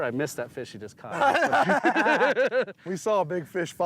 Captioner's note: laughter